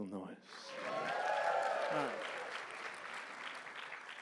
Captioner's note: applause and cheering